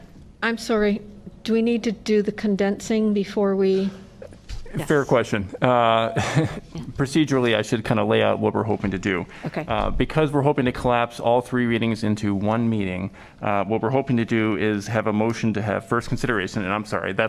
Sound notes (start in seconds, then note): 5.3 laughter